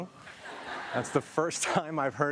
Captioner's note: audience laughs